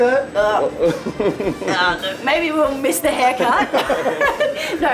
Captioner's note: chuckles